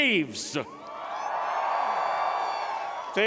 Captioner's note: cheering